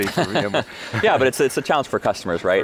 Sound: laughing

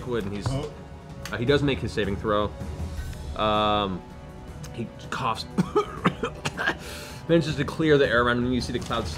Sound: coughs

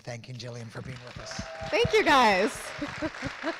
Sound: crowd cheering

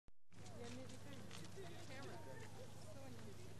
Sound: chatter

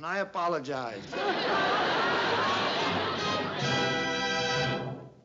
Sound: laughter

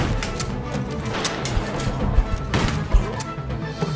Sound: gunshot blasts

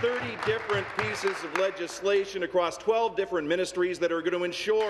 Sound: some Applause

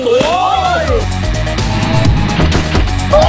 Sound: upbeat music playing; explosions

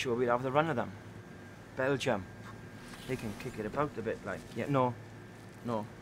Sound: exhales

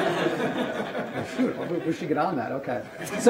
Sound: audience laughter

